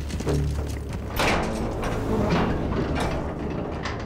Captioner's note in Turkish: Kapı Açılma Sesi